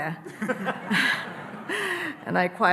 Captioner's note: audience laughing